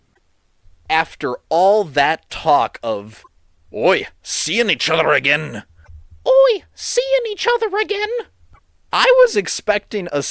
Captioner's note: british accent